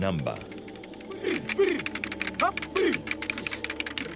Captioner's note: man hissing